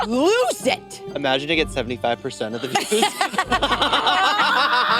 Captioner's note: laughs